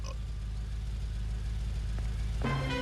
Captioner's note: booster burps